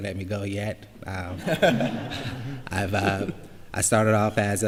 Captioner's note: laughter